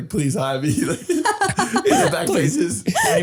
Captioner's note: laughing